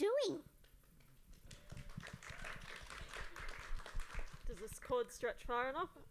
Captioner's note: applause